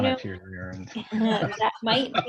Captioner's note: laughs